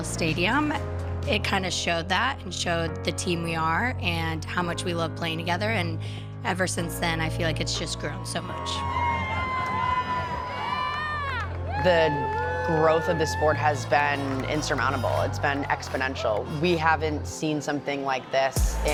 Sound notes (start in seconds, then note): 10.4 crowd cheering